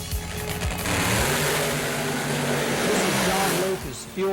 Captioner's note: engine roar